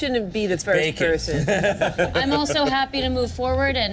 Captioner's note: laughs